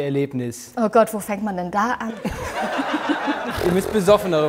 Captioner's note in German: Gelächter